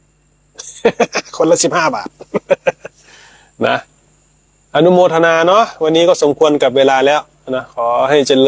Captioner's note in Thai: เสียงหัวเราะ